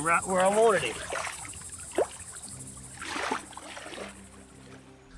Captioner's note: water sloshing